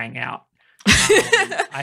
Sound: laughing

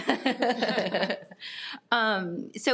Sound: people chuckle

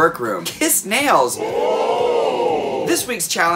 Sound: crowd ooing

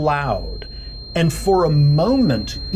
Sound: screeching sound

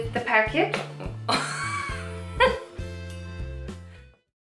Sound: laughter

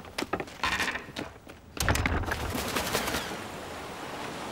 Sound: door closing

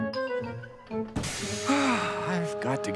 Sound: sighing

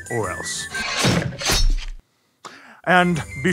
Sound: guillotine chop

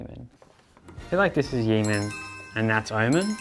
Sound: bell sound

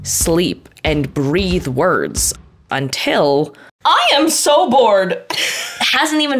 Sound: laughs

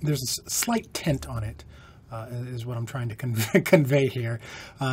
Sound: laughter

